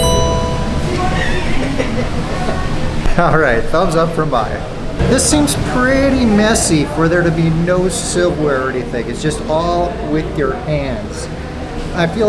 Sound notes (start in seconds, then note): 0.0 sound dings